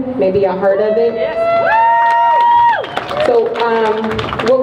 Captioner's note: crowd cheers